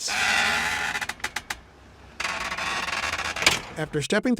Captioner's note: door creaking